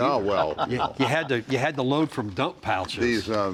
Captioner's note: panel members laugh